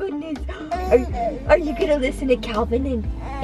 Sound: baby cooing

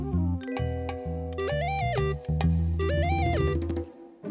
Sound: electronic tone

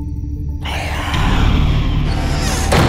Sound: demonic roar; door swings shut

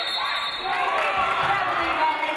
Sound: referee blows whistle

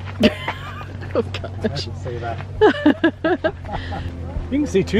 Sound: laughter

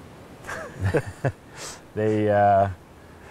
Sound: laughs

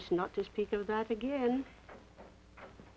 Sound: door opens

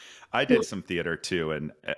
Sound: laughs

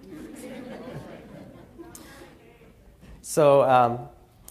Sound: laughter

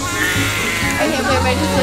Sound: baby crying

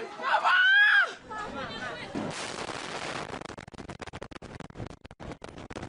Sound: crashing

